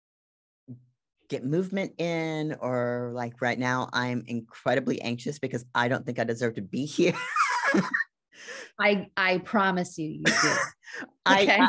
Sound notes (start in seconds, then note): 7.1 laughs